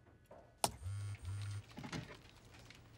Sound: phone vibrates

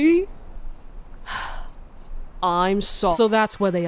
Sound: sigh

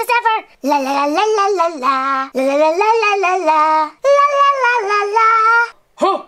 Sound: Alvin humming "Here Comes Santa Claus"

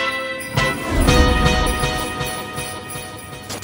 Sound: upbeat electronic music; sleigh bells

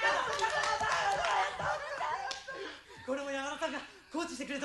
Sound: applause

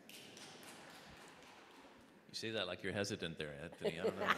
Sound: audience applauding

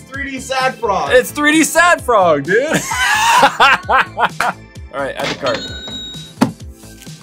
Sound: laughs

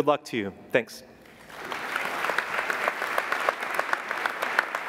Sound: applauding

